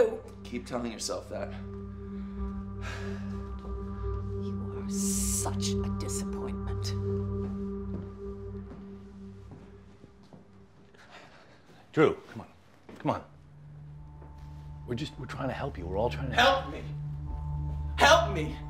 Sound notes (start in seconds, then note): 2.6 Drew sighs; 11.0 Drew sighs